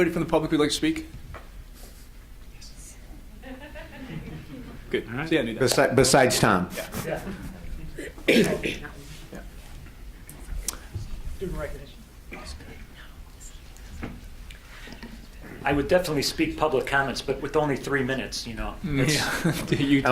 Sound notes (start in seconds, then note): 3.4 audience laughs; 8.9 speaking faintly; 19.0 audience laughs